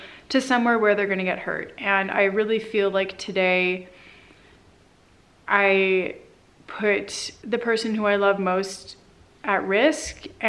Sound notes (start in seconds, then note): none